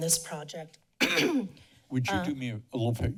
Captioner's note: coughs